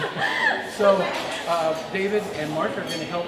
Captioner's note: laughing